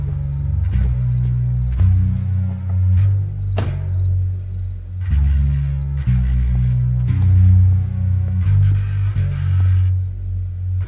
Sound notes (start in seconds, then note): 2.4 car door slams